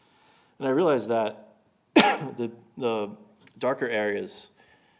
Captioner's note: coughing